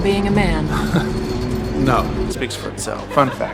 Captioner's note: laughs